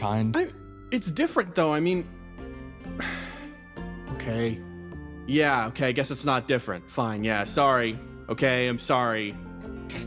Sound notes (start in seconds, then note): 2.9 sigh